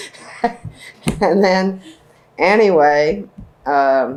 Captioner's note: laughs